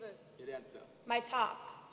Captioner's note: speaking native language